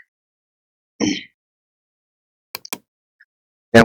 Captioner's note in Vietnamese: hắng giọng